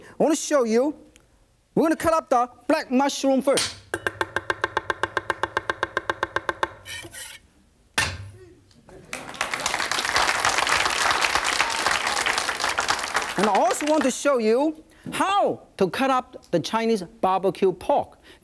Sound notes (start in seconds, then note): 3.8 fast chopping; 8.1 knife taps against table; 8.9 audience claps